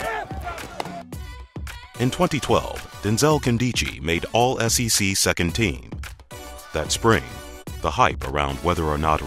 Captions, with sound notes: - [Voiceover] In 2012, Denzel Nkemdiche make All-SEC second team. That spring, the hype around whether or not